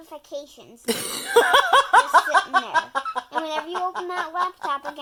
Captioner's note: laughs